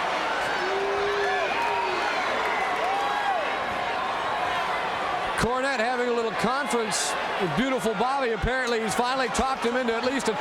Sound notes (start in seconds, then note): 3.3 crowd murmuring